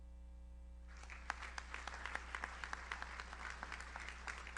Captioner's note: audience applauds